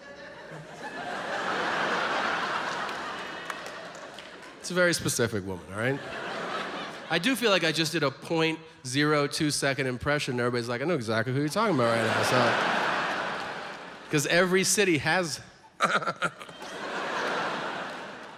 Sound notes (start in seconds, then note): 0.0 audience laughs; 5.7 audience laughs; 13.2 audience laughs; 15.7 giggles; 15.7 audience laughs